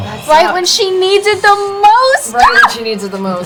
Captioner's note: shriek